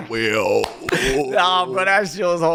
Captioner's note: applauding and laughing